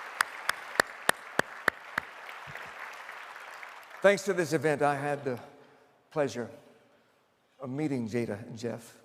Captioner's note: applause